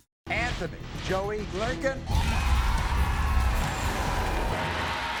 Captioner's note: audience cheers